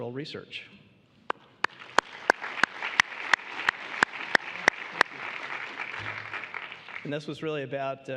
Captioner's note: applause